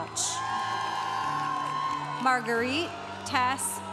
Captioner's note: congregation cheering